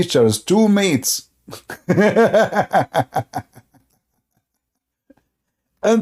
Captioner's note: Ketawa